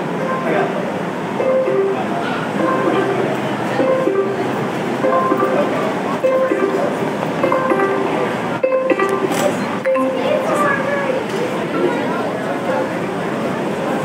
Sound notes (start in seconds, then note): 0.1 repeating electronic beeps, each a descending perfect fourth; 9.9 conclusive "ding"